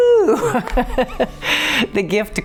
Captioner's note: laughing